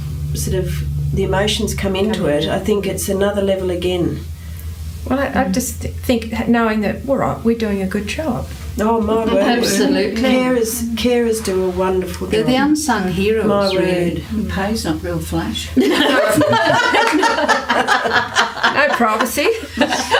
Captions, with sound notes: sort of, the emotions come into it, I think it's another level again. Well, I just think knowing that we're doing a good job. Oh, my word. Absolutely. Carers do a wonderful job. They're the unsung heroes, really. The pay’s not real flash! (Laughter) No privacy!